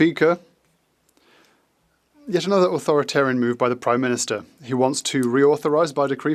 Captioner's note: speaking French